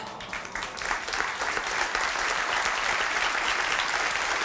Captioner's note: audience applauds